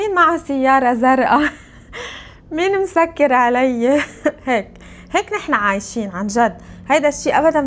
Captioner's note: laughs